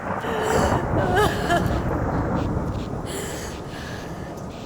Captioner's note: cries